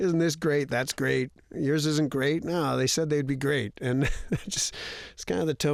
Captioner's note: laughter